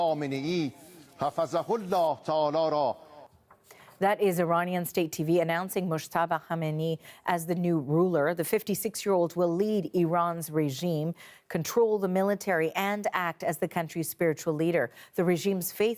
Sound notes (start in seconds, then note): 4.4 speaking Alternate Language